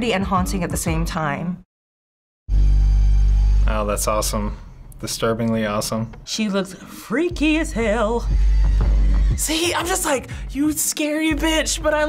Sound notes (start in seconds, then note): 7.0 sing-song